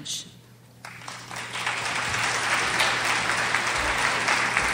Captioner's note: crowd applauds